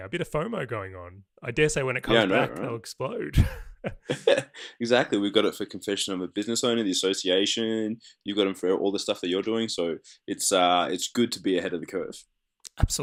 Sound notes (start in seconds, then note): 3.3 laughter